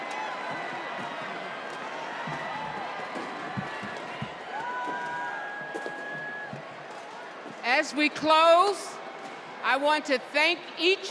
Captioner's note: cheers and applause